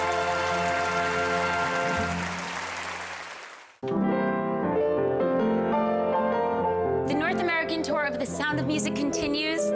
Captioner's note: applause